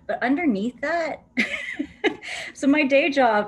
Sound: laughter

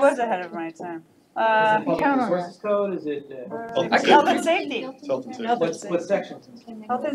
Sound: all chattering

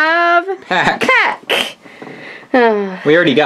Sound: sighs

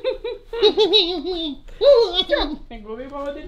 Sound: gorilla sound

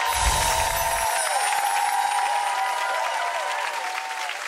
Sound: applause

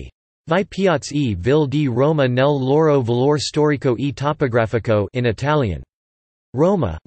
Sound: in Italian

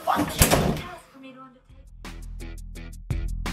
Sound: door slams

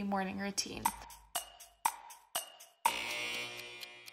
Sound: clock ticking

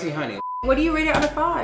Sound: video beeps

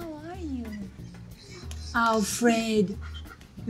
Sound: dog whining

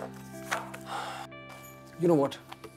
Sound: sighs

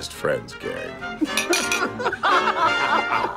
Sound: laughter

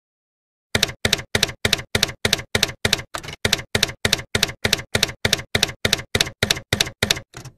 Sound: typewriter keys clacking

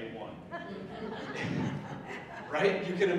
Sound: audience laughing

